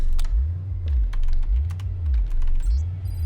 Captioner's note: keyboard clacking